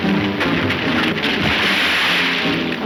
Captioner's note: splashing; suspenseful music